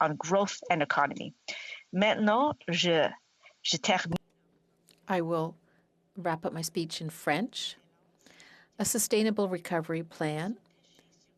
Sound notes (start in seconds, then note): 9.8 speaking French